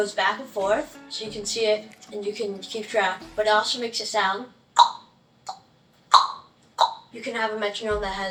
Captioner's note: makes click sounds